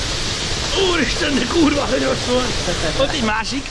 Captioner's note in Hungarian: Vízcsobogás